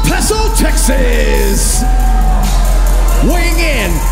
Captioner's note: crowd cheers